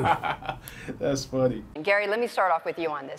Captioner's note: laughing